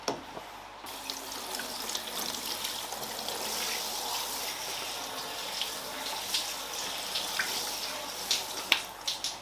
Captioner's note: shower sounds